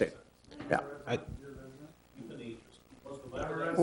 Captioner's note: audience member speaking distantly